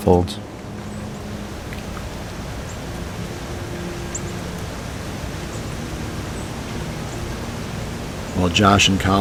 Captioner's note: sound of light wind